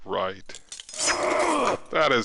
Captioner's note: Aaron grunts